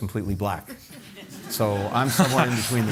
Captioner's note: laughter